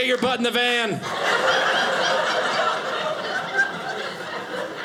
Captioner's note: audience laughing